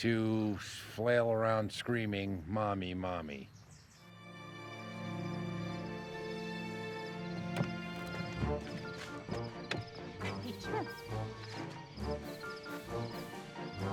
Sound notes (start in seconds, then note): 0.1 lighthearted music; 10.1 yells